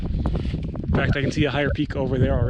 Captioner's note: wind whistling